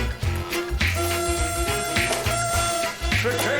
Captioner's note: blows party horn